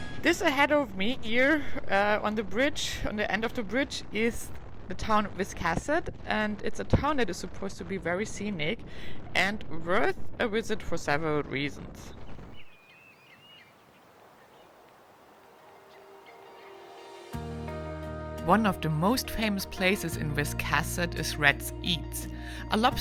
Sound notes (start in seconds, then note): 12.1 birds chirping; 15.5 ethereal guitar music